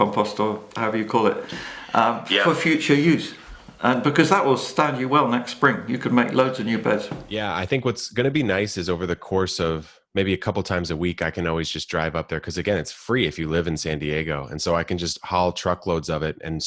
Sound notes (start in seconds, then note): none